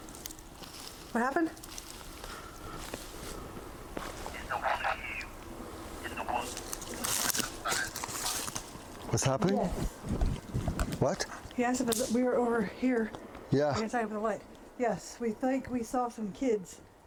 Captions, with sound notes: [rustles] - What happened? [voice over radio] - It's the wolf. [voice over radio, rustles] - What's happening? - Yes. - What? - He asked if we were over here. - Yeah. - I guess I have the light. Yes, we think we saw some kids.